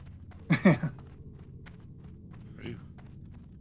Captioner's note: laughing